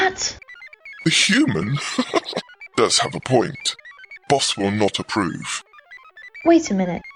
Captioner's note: laughs